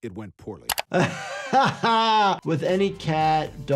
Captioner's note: laughs